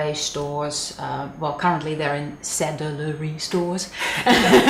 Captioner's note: laughing